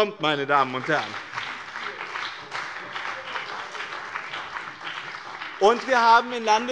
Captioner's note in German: Beifall bei dem BÜNDNIS 90/DIE GRÜNEN und der CDU